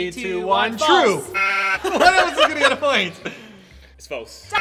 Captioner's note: laughing; sheep noise